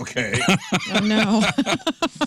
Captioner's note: laugh